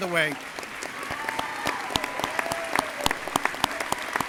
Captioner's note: crowd cheering